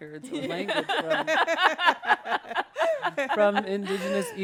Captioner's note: speakers laughing